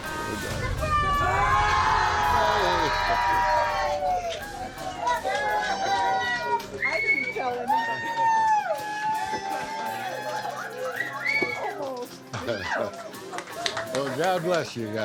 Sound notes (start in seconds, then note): 4.3 all cheering, clapping